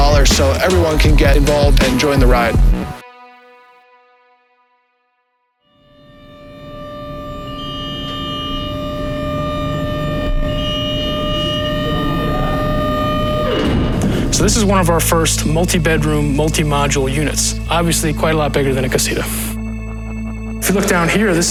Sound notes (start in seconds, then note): 7.3 machine beeping